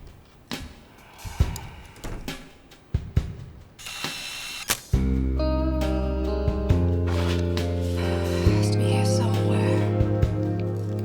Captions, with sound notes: (somber rock music) (camera clicking) It has to be here somewhere.